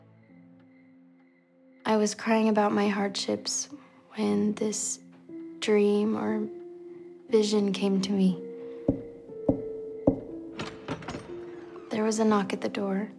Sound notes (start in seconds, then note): 10.0 knocking on door; 10.2 door opening